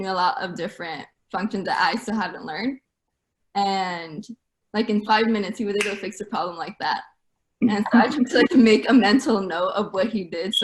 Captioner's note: snap